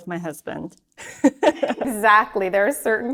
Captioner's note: chuckles